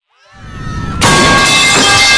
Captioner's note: screaming